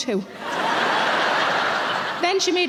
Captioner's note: audience laughing